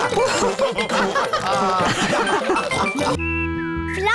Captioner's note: all laughing